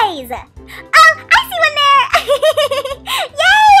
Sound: laughs

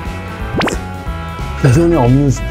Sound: slurp

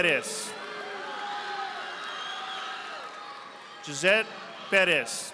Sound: audience applauding

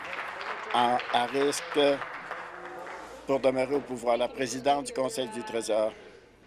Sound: applause

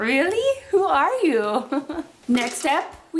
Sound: laughs

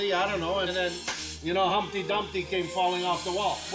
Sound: clapping

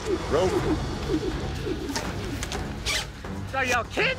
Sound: ropes swirling through air

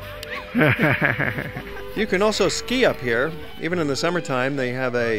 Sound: laughter

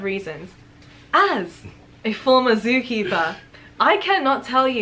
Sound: laughs

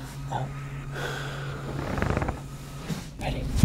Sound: breathing

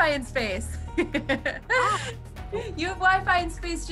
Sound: laughing

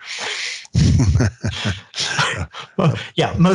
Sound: both laugh

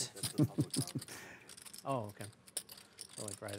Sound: chuckles

